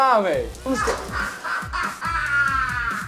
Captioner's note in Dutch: Muhahahaha